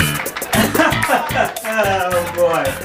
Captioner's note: laughing